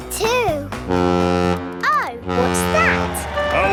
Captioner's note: horn bellowing